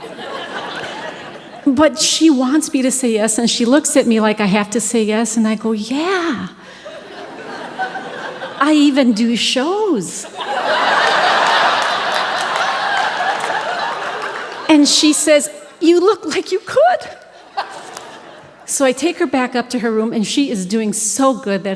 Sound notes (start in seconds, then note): 0.0 audience Laughing; 6.6 audience Laughing; 10.3 audience Laughing And Clapping